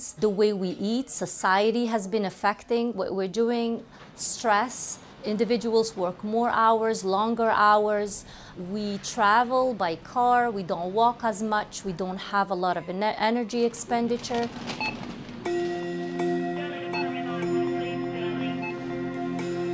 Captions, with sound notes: The way we eat, society has been affecting what we're doing. Stress, individuals work more hours, longer hours. We travel by car, we don't walk as much, we don't have a lot of energy expenditure. (checkout scanner beeping)